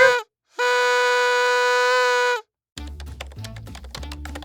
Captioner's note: horn blurring; dramatic music